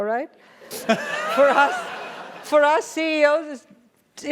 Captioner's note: laugh